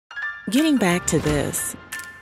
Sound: voiceover; upbeat music

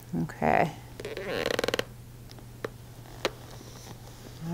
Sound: leg creaks

